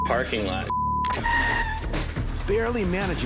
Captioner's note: tires squeal